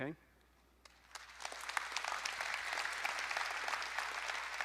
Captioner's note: audience applauding